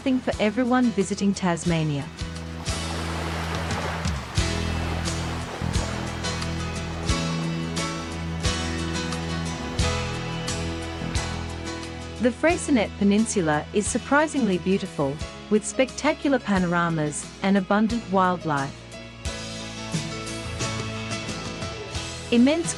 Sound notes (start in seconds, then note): 2.4 water flowing